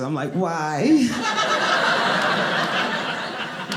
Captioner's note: audience laughing